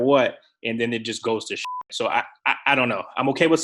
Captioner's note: beep